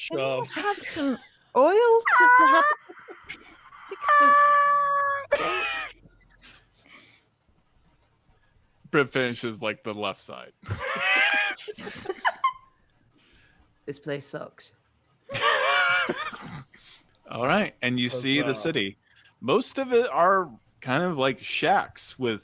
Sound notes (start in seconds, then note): 11.8 wheezes; 15.3 people laughing